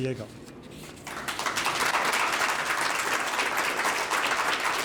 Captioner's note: audience clapping